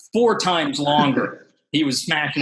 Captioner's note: chuckles